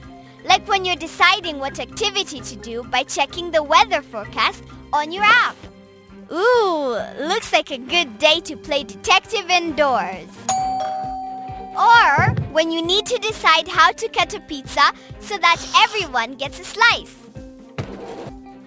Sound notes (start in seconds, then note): 10.5 doorbell rings